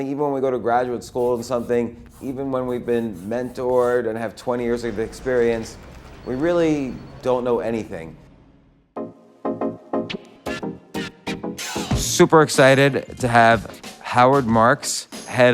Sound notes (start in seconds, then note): 1.0 chalk on chalkboard; 9.0 urban music